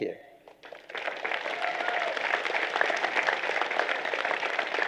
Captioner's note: applause